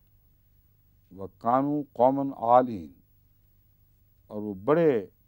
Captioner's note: Arabic